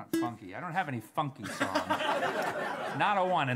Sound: laughter

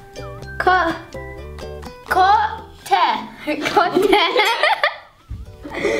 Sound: laughs

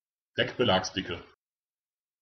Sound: fast Pronunciation

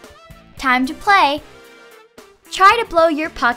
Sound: none

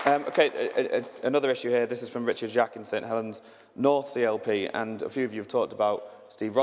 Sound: applause

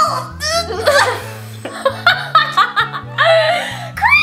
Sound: laughter

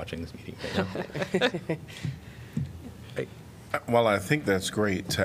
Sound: laughter

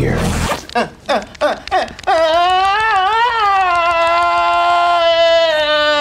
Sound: pants unzipping; Chuck moaning

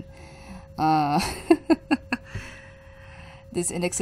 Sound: laughs

